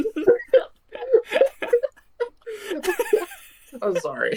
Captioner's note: cracking up continues